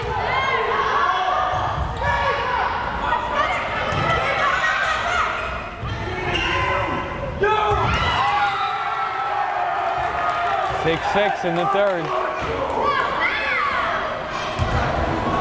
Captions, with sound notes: (crowd cheering) 6-6 in the third.